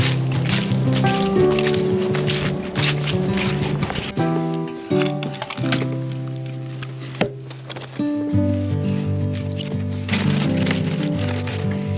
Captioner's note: sizzling